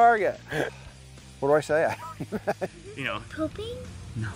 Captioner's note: laughing